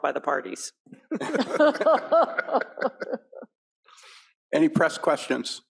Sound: panelists and audience laughing

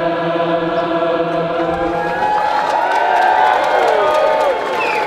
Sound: audience cheers

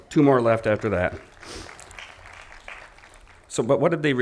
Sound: applause

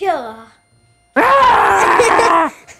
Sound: yells and laughter

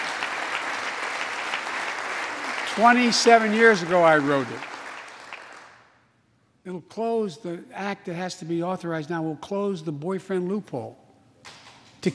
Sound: applause

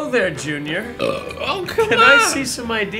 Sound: belches

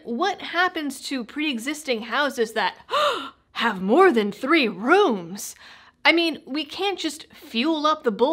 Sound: gasp

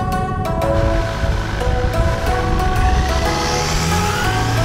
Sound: outboard purring; engine revving

